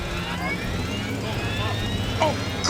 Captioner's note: automated Voice